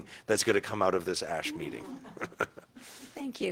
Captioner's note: chuckling